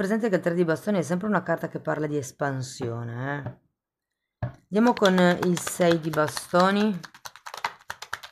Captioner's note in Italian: Applauso